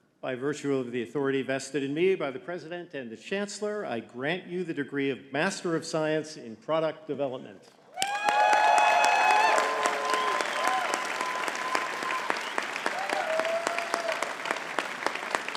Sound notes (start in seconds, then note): 7.9 audience cheering and clapping